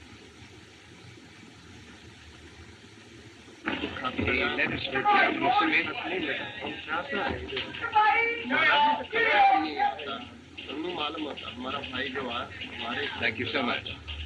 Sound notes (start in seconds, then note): 3.5 chattering crowds